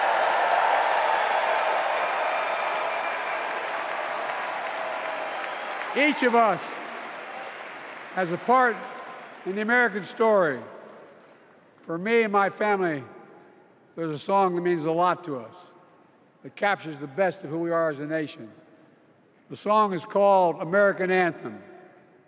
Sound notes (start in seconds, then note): 6.4 cheers and applause